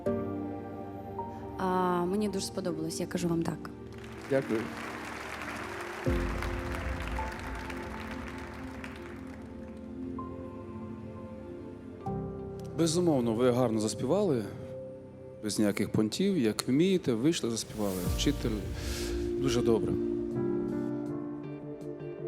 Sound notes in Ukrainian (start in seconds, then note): 3.8 оплески